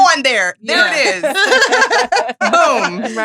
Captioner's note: all laughing